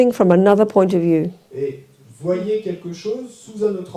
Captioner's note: French